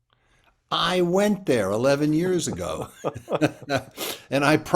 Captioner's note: chuckles